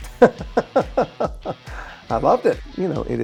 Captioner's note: Jason laughing